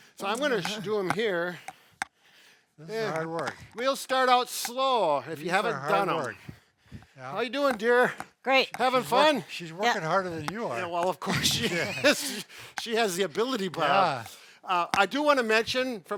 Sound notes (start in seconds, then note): 10.7 chuckles